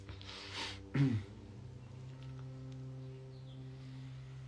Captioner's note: गला साफ़ करने की आवाज़